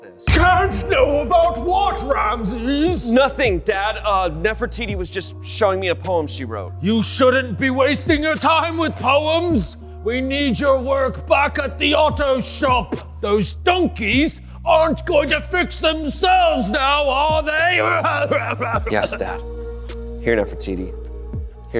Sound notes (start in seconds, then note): 17.8 dad harrumphing and coughing